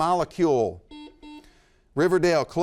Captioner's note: buzzer beeps